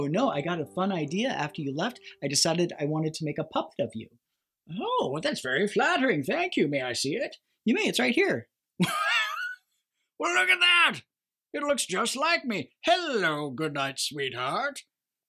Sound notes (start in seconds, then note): 8.8 laughs